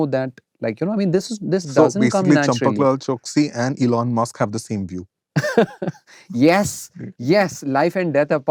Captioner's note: laughter